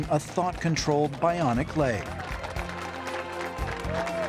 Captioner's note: cheers and applause